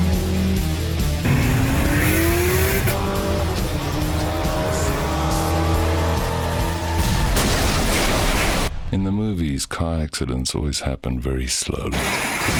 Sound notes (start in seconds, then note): 0.0 turbo revving loudly